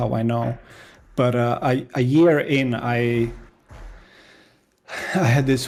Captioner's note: sighs